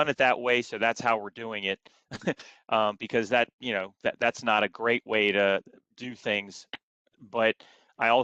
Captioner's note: laughter